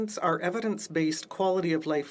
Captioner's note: speaking French